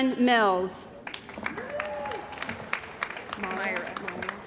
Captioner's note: cheering & Applause